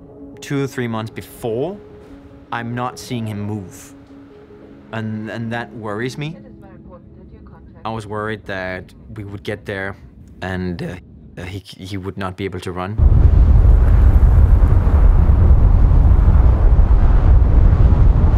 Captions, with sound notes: Two, three months before, I'm not seeing him move. And that worries me. I was worried that we would get there, and he would not be able to run. [strong winds blowing]